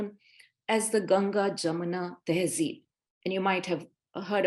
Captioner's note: speaking Hindi